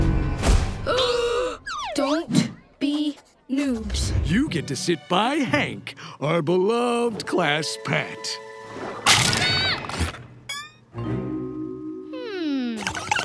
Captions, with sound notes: [gasping] Don't... be... noobs. You get to sit by Hank, our beloved class pet. [yelping] Hmm.